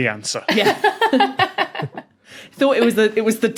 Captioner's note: guests laughing